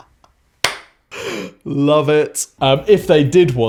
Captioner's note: claps